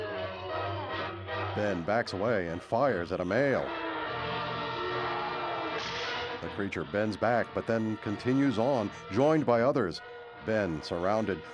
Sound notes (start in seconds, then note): 5.8 gunshot